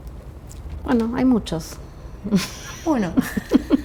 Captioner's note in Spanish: risas